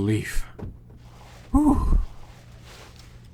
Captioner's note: mic peak